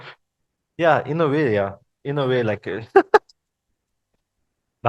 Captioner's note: laughters